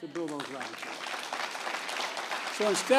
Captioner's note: applause